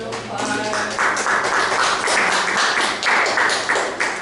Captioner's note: applause